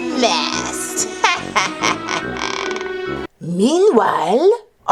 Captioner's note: laughs sinisterly